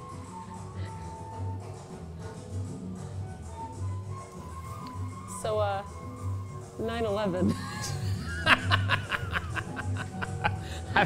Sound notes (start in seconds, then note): 7.4 laughs